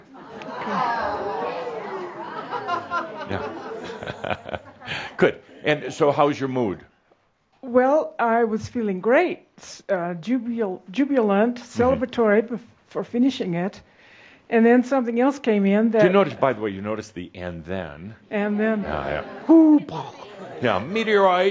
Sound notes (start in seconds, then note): 2.7 audience says “Oooh!”